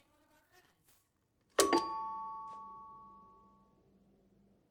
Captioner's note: doorbell rings